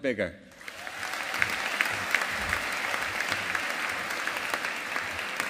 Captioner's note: audience applauding